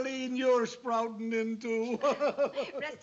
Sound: laughs

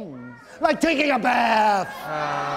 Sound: all exclaiming

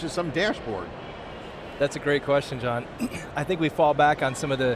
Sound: clears throat

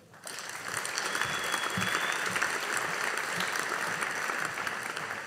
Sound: audience applauding

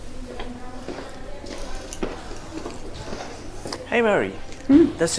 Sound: people chatting

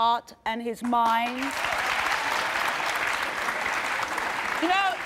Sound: audience applauding

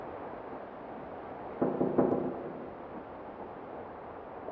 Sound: door knocking

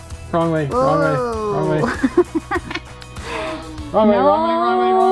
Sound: exasperated sounds

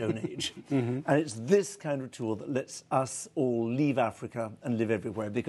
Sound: laughter

